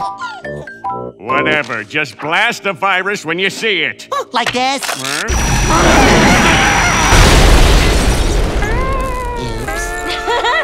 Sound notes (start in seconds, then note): 0.4 xylophone music; 5.3 lasers shooting; 6.9 screaming; 8.8 defeated music